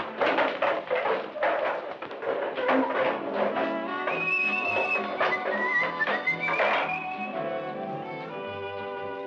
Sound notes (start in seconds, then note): 2.8 soft jazzy music; 4.1 man whistling